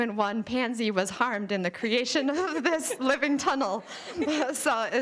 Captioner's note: all laughing